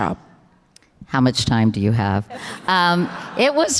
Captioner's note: audience laughter